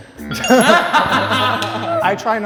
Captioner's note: laughs